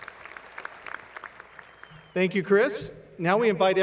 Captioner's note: applause